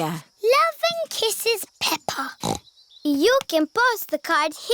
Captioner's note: snorts